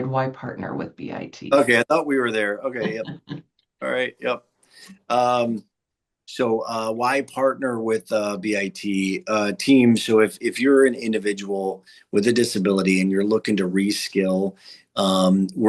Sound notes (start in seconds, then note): 1.5 chuckling